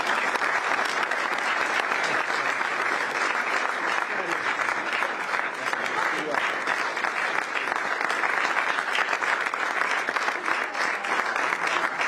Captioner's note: applause